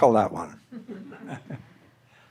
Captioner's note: audience laughing